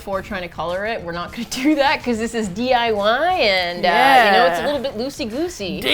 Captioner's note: laughs